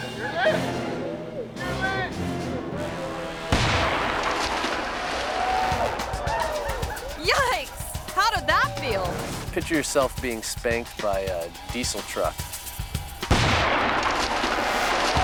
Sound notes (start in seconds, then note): 3.4 explosive booms; 5.0 friends cheering; 13.2 explosive booms